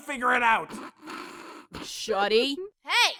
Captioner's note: Kirito stifling a laugh